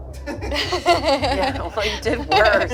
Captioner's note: group laughs